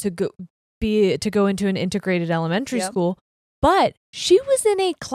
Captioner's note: none